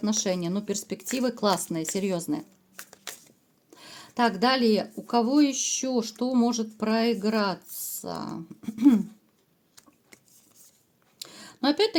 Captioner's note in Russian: откашливается